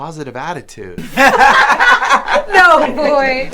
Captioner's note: rehab patients laughing